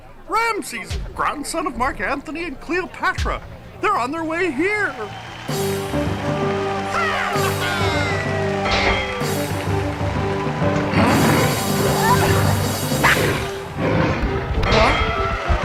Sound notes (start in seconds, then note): 6.5 crowd cheering; 9.7 dramatic music